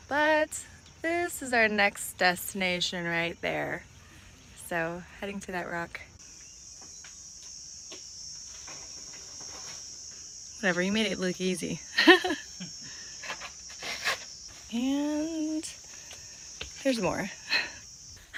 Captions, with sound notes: but this is our next destination right there. So heading to that rock. Whatever you made it look easy. (both chuckles) And there's more.